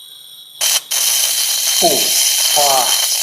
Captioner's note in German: Es zischt laut